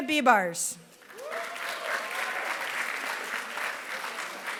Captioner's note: applause